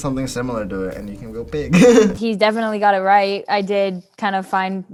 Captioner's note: chuckles